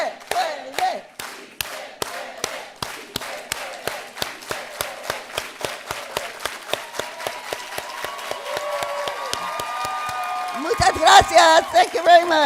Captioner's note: clapping and chanting